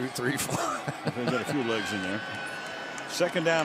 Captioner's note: laughs